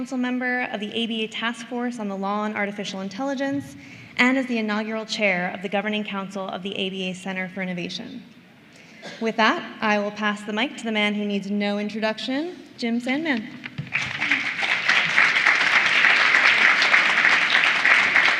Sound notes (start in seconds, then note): 13.8 applause